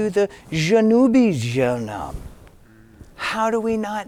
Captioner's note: speaking in foreign language